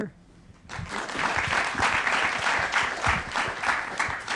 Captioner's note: applause